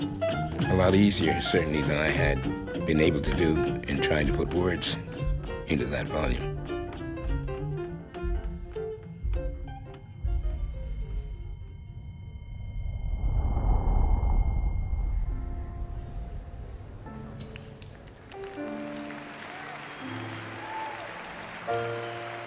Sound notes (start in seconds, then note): 15.4 soft piano music; 17.9 cheering, applause